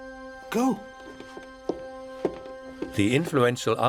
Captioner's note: footsteps sound